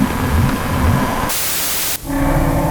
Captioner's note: Static